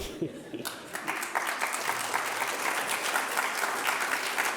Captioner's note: audience applauding